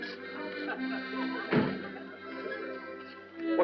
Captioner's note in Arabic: الباب يُغلق